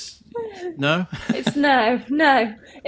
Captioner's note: chuckles